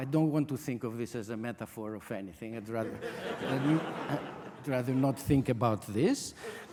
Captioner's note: audience laughter